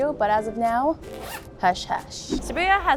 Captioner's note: zipper zipping